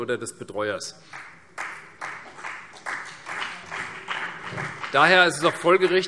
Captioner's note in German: Beifall CDU und vereinzelt BÜNDNIS 90/DIE GRÜNEN